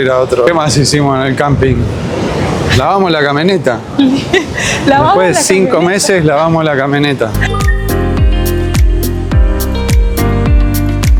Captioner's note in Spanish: risas